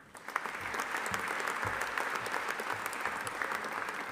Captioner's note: audience applauding